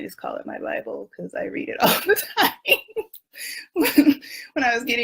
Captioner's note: laughs